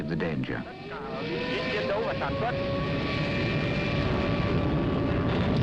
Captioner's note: planes roaring